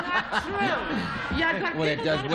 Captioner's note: laughs